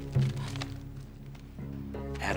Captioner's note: gasps